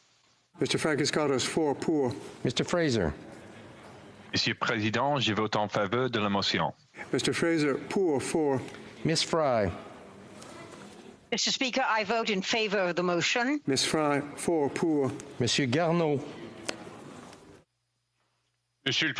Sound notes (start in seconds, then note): 6.9 speaking FRENCH